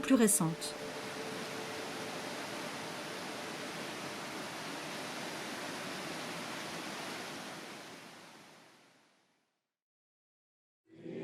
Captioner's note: sound of the river